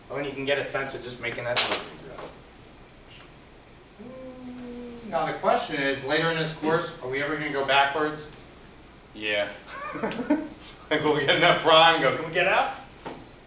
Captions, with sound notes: I mean, you can get a sense of just making up as we go. Now the question is, later in this course, are we ever going to go backwards? Yeah. (laughing) Like, if we have F-prime, can we go up?